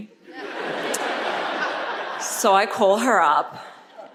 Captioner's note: audience laughs